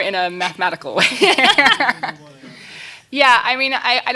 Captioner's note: laughing